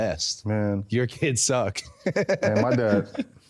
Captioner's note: laughs